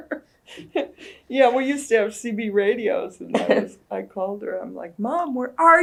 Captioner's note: laughter